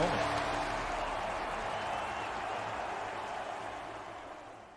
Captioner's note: crowd continues cheering